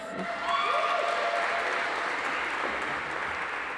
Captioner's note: audience applauds